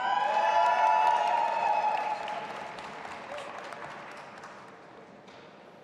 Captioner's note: audience applauding and cheering